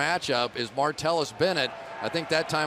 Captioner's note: crowd cheering